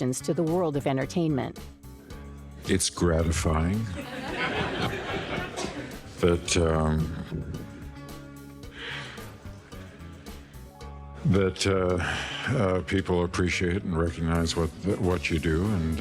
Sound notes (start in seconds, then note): 3.9 audience laughing